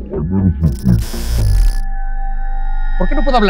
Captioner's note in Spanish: Voz distorsionada